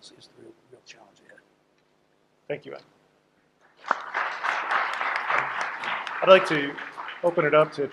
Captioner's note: applause